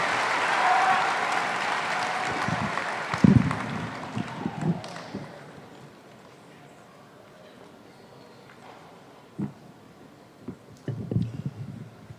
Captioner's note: applause